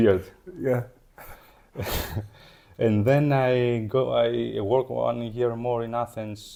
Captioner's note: laughs